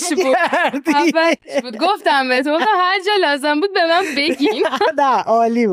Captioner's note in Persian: خنده; خنده